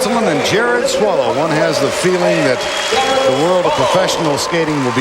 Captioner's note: crowd cheering